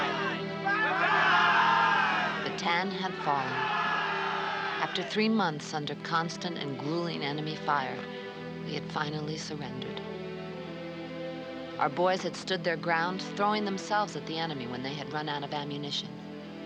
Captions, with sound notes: - [Maggie Voiceover] Bataan had fallen. After three months under constant and grueling enemy fire, we had finally surrendered. Our boys had stood their ground, throwing themselves at the enemy when they had run out of ammunition.